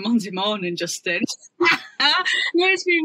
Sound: laughs

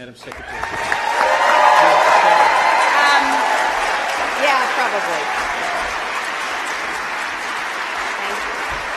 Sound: applause

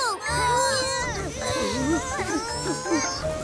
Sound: all grunting

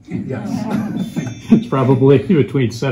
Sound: audience laughs

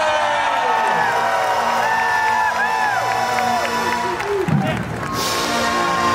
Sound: applause

